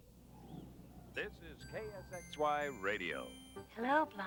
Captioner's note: radio Announcer; Ava On Radio